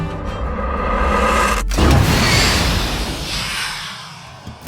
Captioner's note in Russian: выстрел